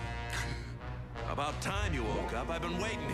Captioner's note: gasps